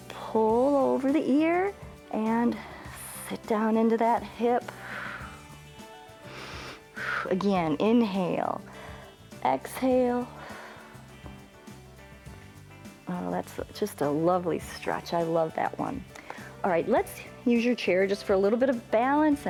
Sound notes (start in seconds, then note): 6.0 exhales and inhales; 8.6 exhales